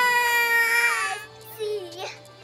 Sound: crying

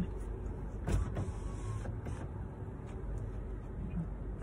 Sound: window rolls down

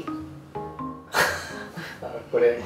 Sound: laughs

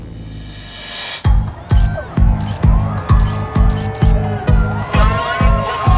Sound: nightclub music; camera shutter clicks

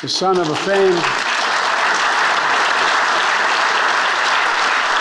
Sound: attendees applauding

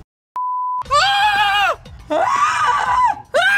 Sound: continues screaming; screaming

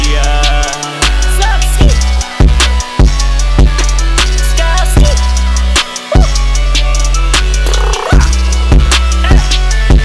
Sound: rapper noises

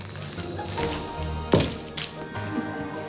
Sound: bang

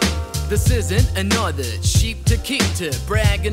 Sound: foreign language

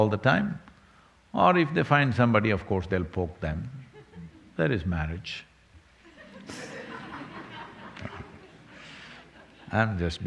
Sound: laughter

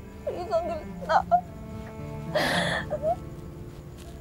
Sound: cries

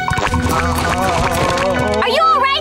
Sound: groaning

